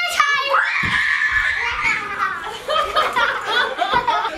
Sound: children screaming

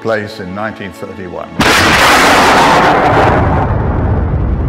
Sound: explosion

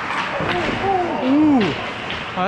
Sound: groan

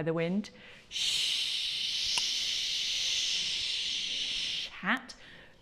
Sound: shh wind sound

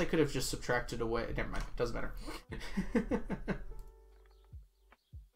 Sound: laughs

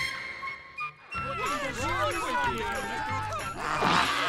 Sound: complaining

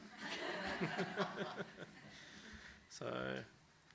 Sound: audience laughs

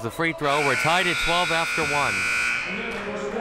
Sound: buzzer sounding

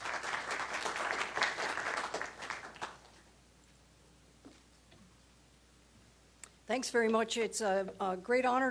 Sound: applause

